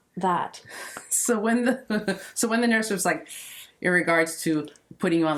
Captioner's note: sucking teeth sound effect